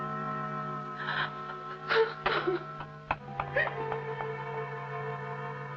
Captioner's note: sobbing